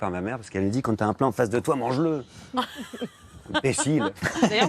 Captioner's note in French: rires